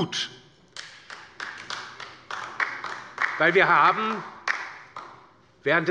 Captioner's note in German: Beifall bei der LINKEN